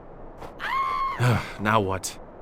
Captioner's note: screams girlishly off screen